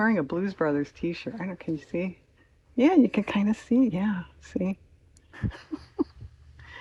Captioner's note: laughs